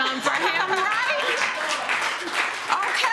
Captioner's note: laughter